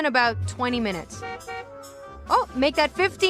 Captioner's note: horn honks